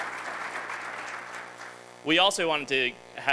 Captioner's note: applause